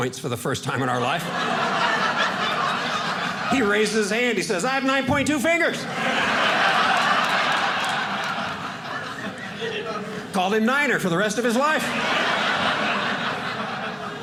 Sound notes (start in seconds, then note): 5.6 audience laughing